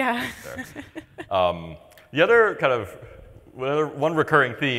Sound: laughs

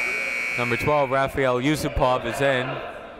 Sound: buzzer ringing

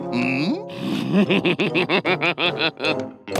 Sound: laughing

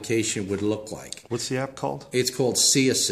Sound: voiceover

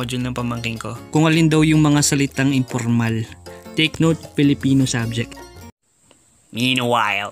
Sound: local language

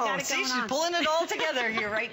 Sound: laughter

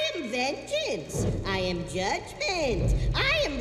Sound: boom

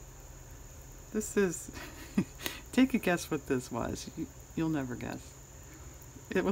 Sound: laughs

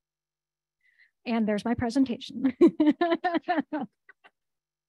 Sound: chuckles

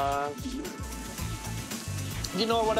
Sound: sizzling

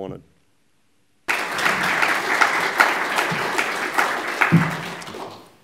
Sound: applause

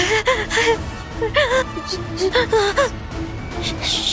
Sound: gasping

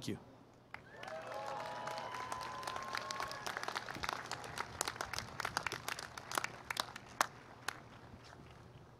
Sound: applause

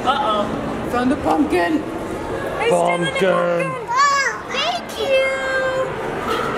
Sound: none

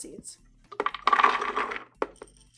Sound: walnuts being poured; sunflower seeds being poured

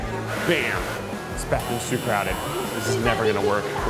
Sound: buzzer

